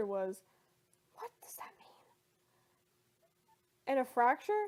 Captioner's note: whispers